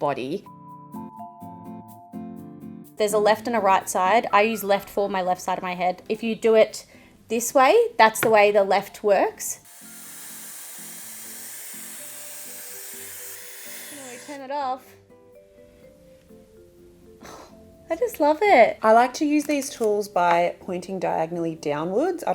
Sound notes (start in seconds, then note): 0.1 pleasant music; 9.6 hairdryer whirring